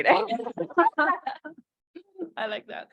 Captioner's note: panelists laugh